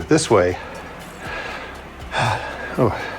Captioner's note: sighs